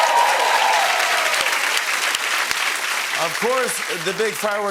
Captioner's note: cheers and applause